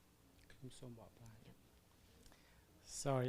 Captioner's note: parent speaking in foreign language